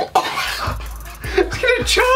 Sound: chokes

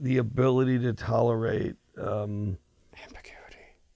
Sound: whispers

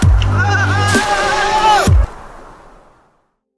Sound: screaming

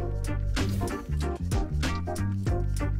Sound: air whooshing

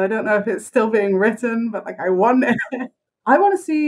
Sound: laughs

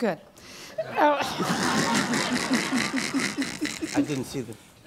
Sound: laughing

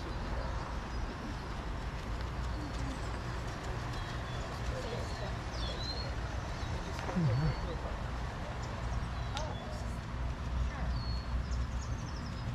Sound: birds chirping

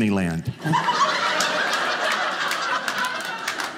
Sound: audience laughing

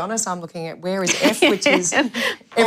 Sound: laughter; laughs

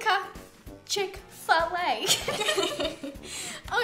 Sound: laughs

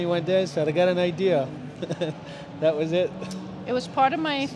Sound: laughs

